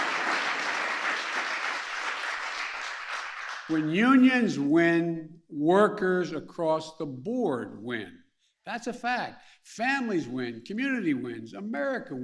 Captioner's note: applause